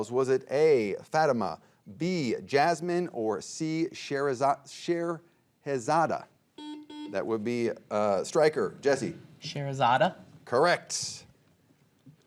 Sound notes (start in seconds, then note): 6.6 buzzer beeping